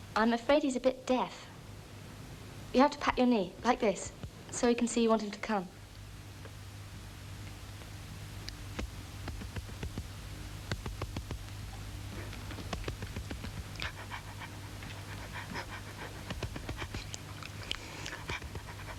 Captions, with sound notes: - I'm afraid he's a bit deaf. You have to pat your knee, like this, so he can see you want him to come. (dog panting)